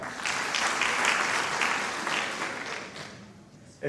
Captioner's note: applause